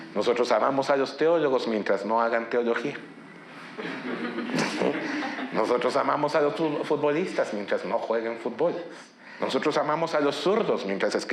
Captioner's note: speaking in Spanish